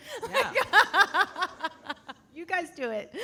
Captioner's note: laughing